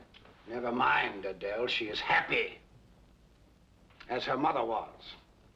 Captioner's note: gruff tone